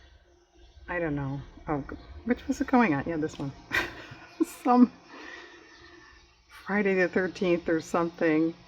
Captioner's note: laughs